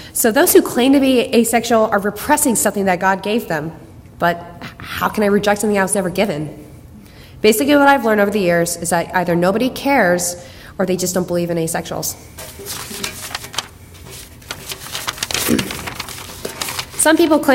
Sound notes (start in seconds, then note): none